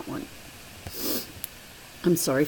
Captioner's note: sniffs